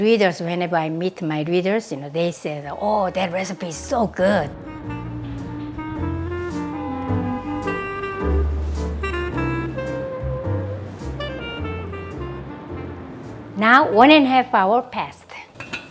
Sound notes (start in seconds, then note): 5.2 horn honking; 5.2 jazz music